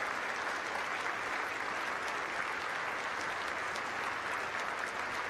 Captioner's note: applause